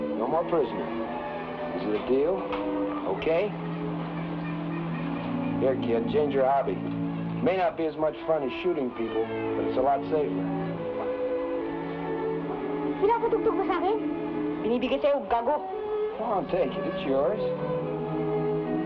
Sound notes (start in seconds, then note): 12.9 people speaking in Tagalog